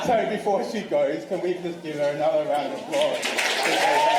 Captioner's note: applause